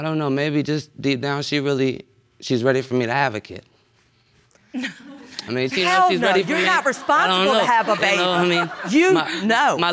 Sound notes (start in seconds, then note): 4.6 laughs; 5.8 audience laughs